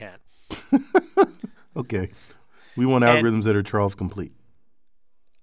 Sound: laugh

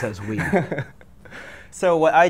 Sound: laughs

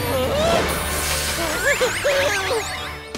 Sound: groaning

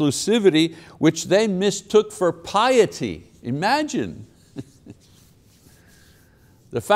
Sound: chuckles

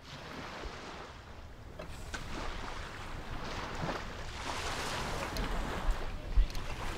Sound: sound of rolling waves

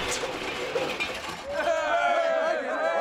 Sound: crowd cheering

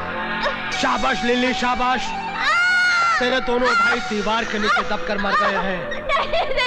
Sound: screams

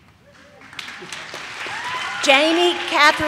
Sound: audience cheers

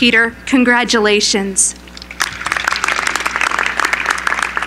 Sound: applause

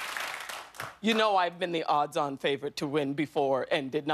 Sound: cheers and applause

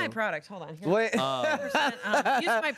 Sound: laughs

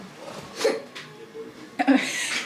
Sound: hiccups

